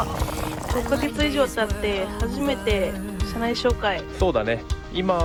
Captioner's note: laughs